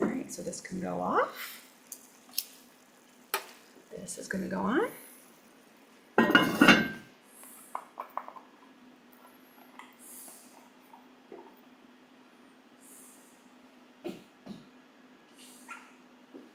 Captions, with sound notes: All right, so this can go off. (food simmering) This is gonna go on. (lid clanks)